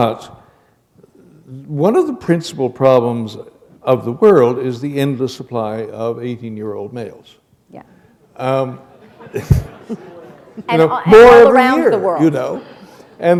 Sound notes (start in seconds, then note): 8.9 laughter